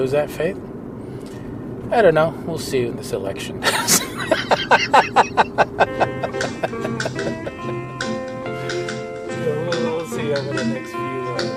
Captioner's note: laughs